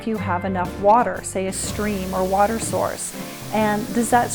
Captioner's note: water splashing